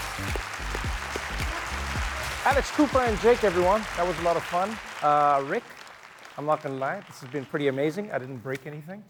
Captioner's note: applause